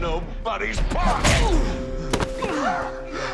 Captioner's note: thud